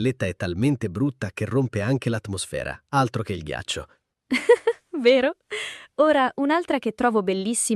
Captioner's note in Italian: risate